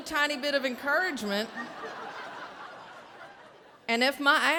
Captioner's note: audience laughing